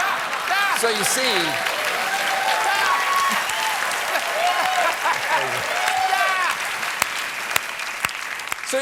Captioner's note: applause